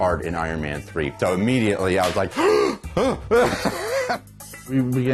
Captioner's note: gasps